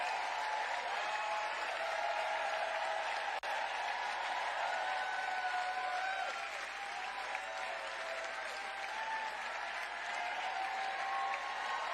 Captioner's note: cheering